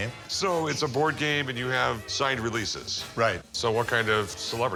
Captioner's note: none